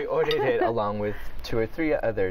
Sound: laughter

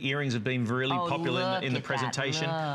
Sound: laughter

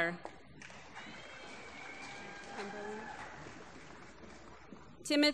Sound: applause

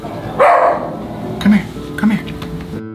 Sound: dog barks

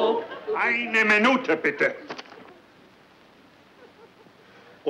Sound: professor speaking German

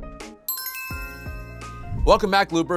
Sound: bright music; bright chiming

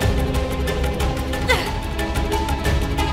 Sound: groaning

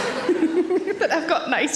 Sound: audience laughs; Sarah laughs

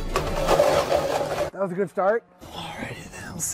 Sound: theme Music; clatters

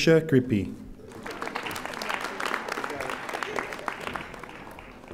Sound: audience applauding

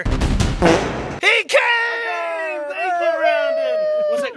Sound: all cheering

